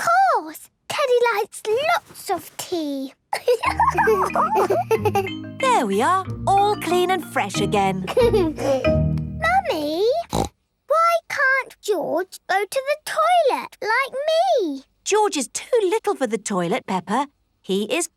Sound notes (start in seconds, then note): 3.4 giggles; 8.0 giggles; 10.2 snorts